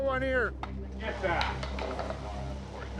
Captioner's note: bat clattering